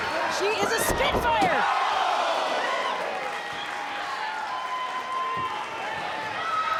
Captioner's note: crowd gasping